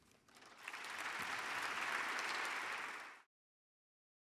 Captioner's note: audience applauding